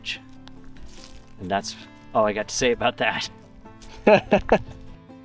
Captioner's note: laughs